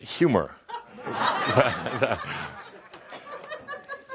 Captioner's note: some laughter